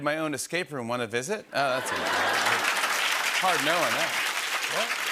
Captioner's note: laughter and applause